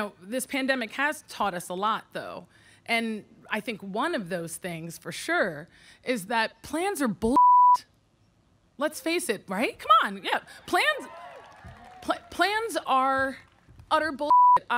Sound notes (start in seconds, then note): 7.3 beep; 10.5 audience clapping; 14.2 beep